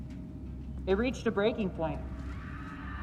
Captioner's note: echoing screams, shouts